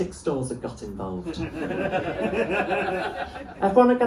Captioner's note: laughter